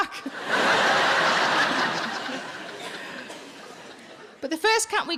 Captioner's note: audience laughing